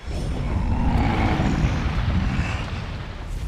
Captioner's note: grunting